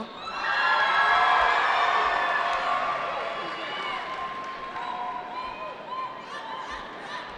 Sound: cheering

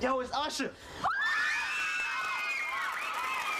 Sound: girls screaming

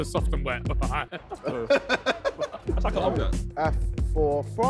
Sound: all laughing

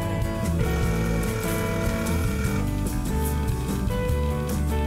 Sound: phone ringing

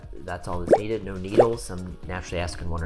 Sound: drop dripping

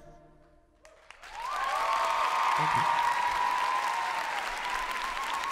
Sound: cheers and applause

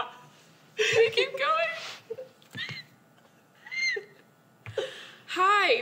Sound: laughter; laughing

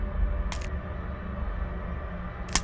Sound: bones crack

